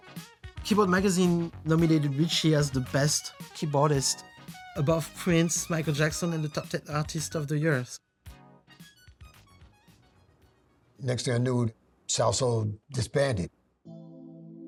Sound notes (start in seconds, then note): none